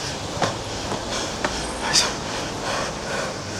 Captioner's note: tired Panting